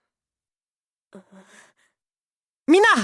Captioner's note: silence; bated breath